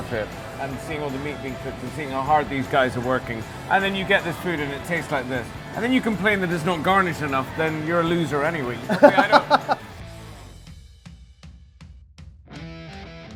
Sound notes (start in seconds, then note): 8.8 rock music; 8.8 laughs